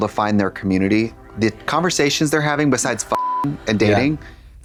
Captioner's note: beep